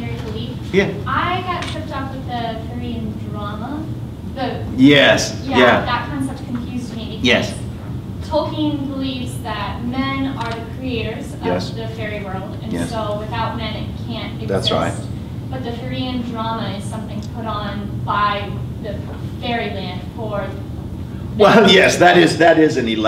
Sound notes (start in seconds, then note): 14.4 murmur